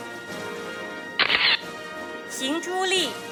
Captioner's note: camera shatters